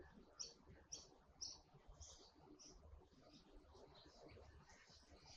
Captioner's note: birds chirping